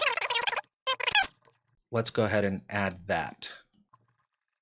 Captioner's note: sped-up audio